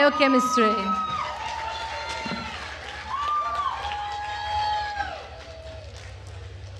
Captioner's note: attendees cheering and applauding